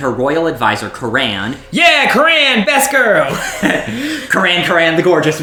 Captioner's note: laughs